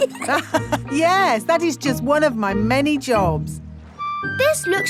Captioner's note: laughs